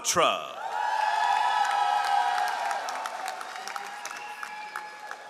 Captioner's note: all applauding